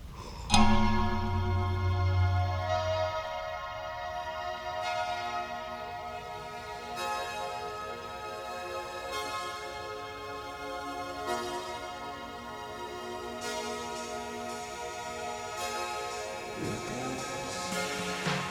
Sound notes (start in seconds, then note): 0.4 A clock chimes as music begins